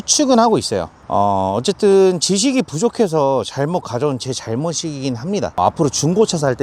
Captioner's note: scoff